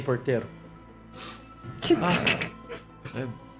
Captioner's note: laughs